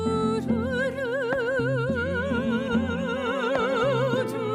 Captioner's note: lady and man humming